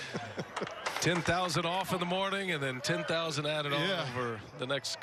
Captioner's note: laughing